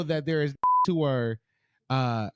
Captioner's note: beep